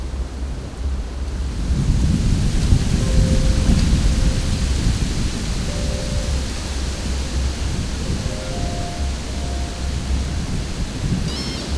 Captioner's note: sound of wind, leaves blowing